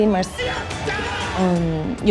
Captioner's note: crowd cheers